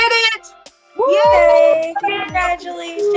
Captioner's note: cheering